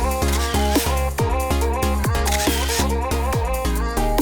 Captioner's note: camera clicking